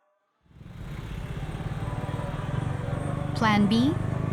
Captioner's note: engines whirring